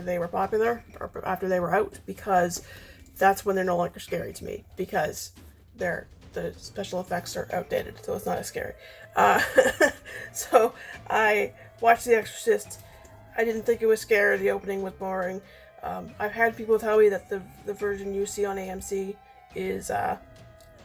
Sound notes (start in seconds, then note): 9.0 laughs